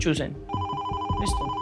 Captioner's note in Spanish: Suena el teléfono